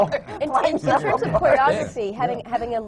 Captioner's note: laughs